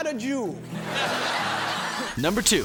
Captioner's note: attendees laughing